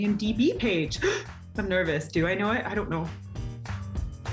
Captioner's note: gasps